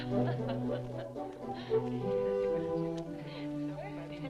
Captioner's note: upbeat music; captives chattering